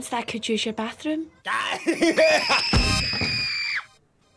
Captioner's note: laughter; screaming